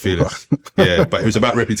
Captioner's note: laughing